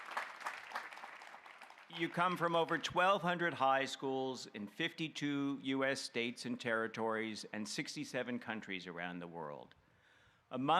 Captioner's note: applause